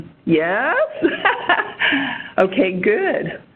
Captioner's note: laughter